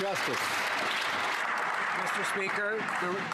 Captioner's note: some Applause